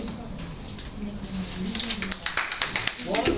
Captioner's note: applause